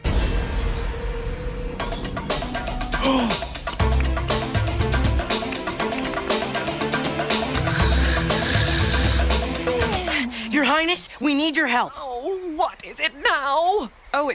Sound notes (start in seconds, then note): 0.0 suspenseful music; 7.6 snoring